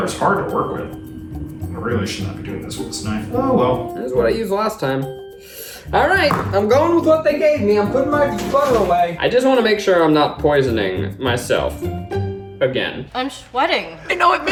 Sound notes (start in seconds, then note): 6.2 sigh